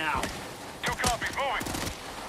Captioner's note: gunshots